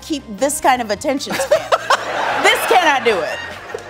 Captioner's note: laughing